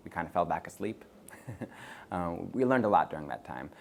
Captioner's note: chuckles